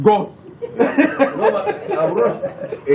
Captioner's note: laughter